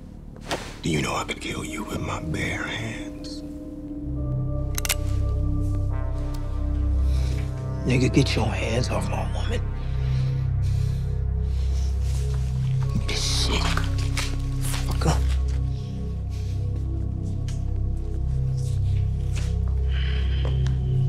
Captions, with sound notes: - Do you know I could kill you with my bare hands? (gun cocks) (tense music) - Nigga, get your hands off my woman. Give me this shit. Fucker. (tense music continues)